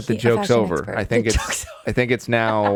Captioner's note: laughs